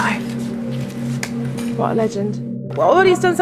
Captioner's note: hands smacking